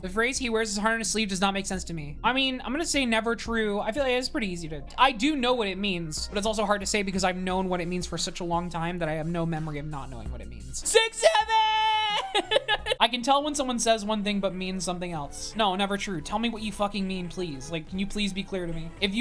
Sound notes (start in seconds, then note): 11.2 laughs